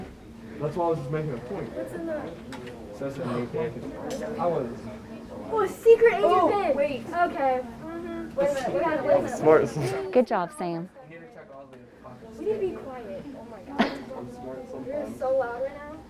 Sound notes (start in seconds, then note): 1.9 group chatter